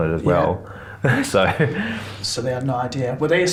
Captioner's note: laughs